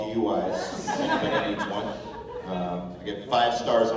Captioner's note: laughter